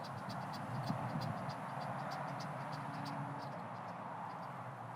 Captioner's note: engines roaring